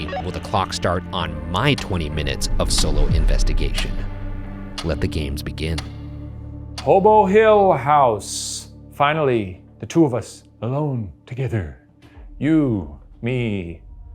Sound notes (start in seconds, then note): 6.0 clock ticking